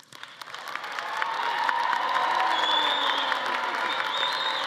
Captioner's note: audience applauding